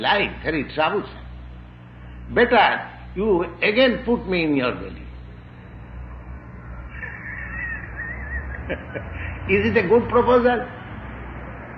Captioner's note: laughs